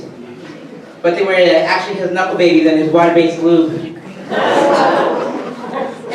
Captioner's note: audience groans